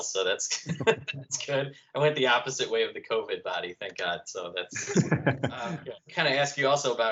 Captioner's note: laughter